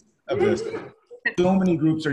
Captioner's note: coughing